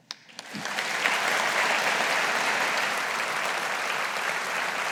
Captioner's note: audience applauding